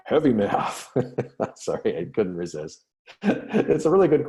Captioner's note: laughter